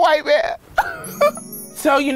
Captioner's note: laughs